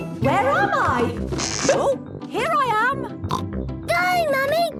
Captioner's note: pops